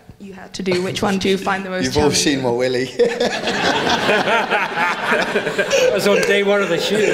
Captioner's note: laughs